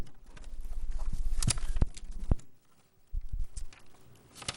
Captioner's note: paper shuffling